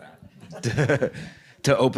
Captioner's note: laughs